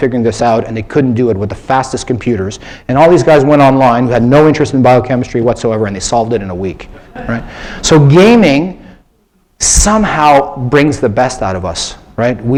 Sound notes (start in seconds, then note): 7.0 laughter